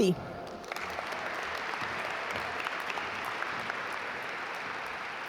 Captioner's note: audience applaud